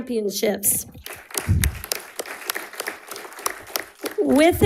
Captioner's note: audience applauding